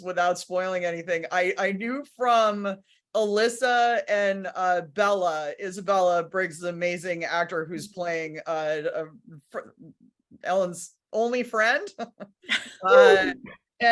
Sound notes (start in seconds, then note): 12.0 all laughing; 12.4 laughs